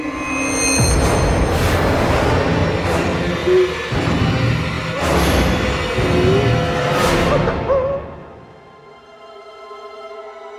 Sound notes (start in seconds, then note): 0.1 menacing music; 3.6 Alyssa whimpering; 7.3 crying